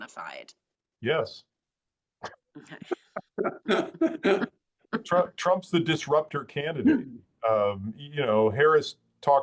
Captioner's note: laugh